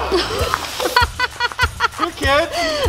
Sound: laughing

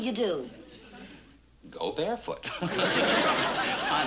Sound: laughs

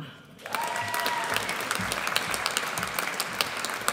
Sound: audience applauds

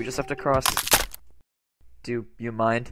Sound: crunch

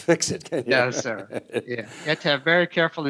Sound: laughing

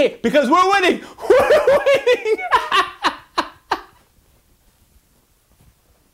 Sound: laughs

